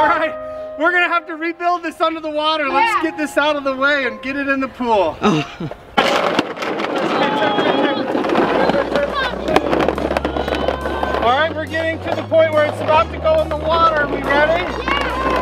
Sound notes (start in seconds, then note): 5.5 plastic scraping